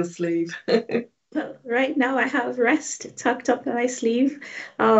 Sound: chuckling

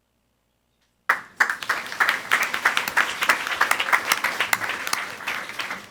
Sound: audience applauding

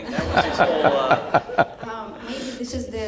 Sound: laughter

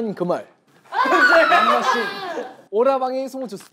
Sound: shouting

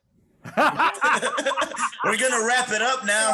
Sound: laughter

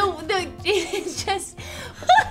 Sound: laughs

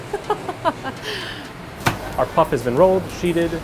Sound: laughs

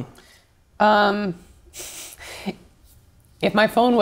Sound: laughs

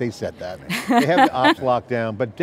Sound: laughing

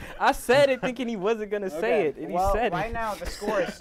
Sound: laughs

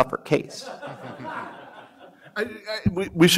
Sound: audience laughs

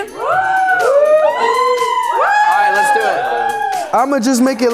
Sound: housemates cheering

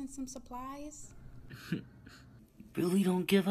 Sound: chuckles

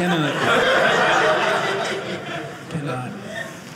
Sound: audience laughing

